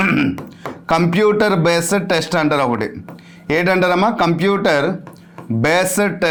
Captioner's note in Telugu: గొంతు సవరించుకోవడం